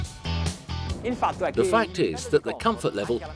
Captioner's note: speaking foreign language